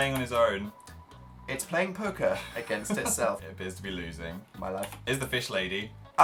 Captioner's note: laughs